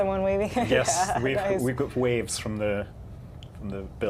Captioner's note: laughter